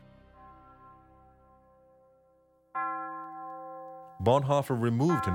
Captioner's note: bells ringing